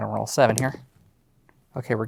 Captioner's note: dice rolling